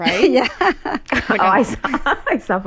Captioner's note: laughter